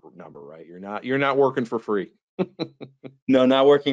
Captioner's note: laughs